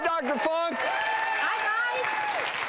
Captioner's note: audience cheering